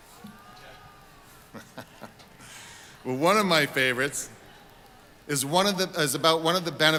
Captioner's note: laughing